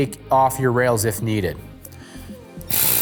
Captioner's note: wrench whirs